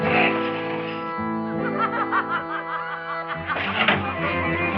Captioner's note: laughter continues